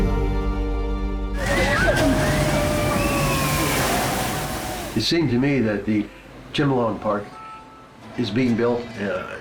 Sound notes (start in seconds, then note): 1.3 screaming and splashing